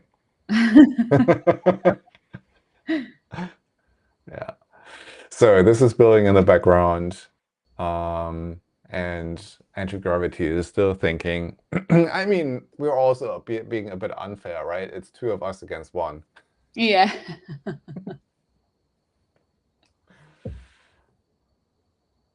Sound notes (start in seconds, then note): 0.6 laughing; 17.0 laughing